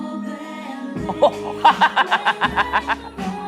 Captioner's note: laughing